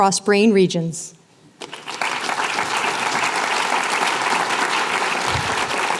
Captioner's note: applause